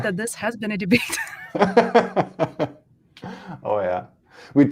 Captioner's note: laughter